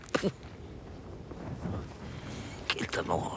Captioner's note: laughs